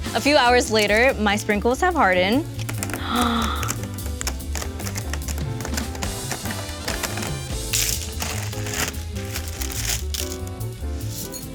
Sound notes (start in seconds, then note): 2.7 gasps; 3.9 paper crinkling; 7.6 sprinkles breaking